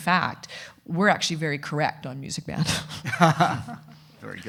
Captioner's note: chuckles; laughing